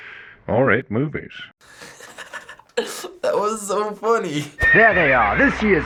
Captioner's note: chuckling